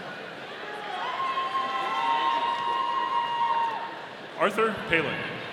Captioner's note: audience cheering